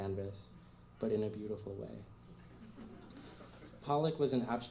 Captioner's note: laughter